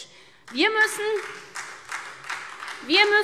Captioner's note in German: Beifall SPD